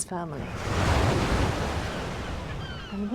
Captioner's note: waves crash; segulls squawk